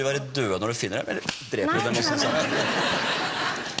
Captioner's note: smack